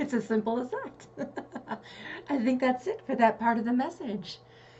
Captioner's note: giggle